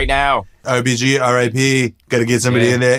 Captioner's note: in donald trump voice